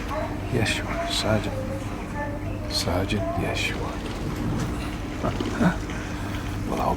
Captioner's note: chuckles